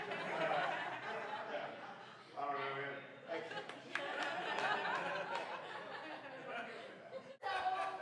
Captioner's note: laughing